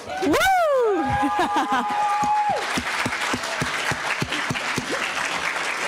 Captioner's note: audience cheering and applauding